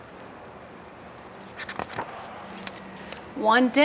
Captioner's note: paper rustling